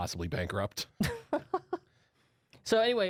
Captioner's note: laughter